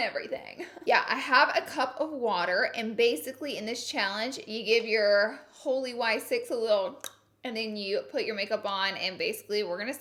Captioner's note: tongue pop